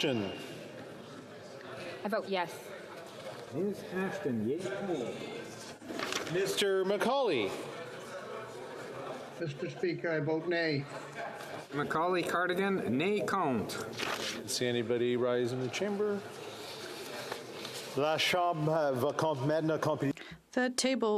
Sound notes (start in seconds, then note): 5.5 calling of recorded vote